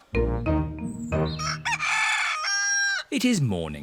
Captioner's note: cockerel crows